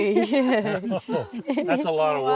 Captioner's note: laughing together